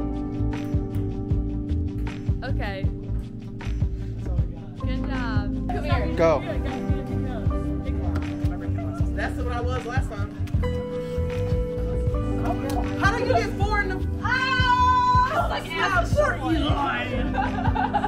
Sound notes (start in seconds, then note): 5.7 group chatter; 14.2 girl cheering